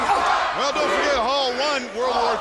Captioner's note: crowd cheering